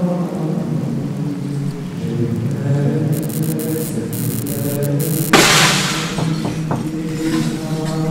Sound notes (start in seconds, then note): 3.1 static, glass shatters